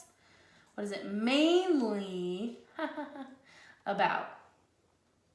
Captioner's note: chuckles